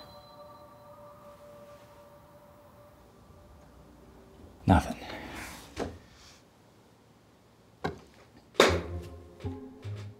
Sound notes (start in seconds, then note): 8.6 clap